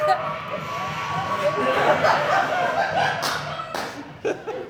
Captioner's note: the audience continues laughing, because the sounds are still going